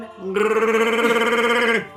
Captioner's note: Wookie roar